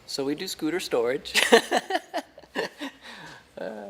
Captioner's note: laughs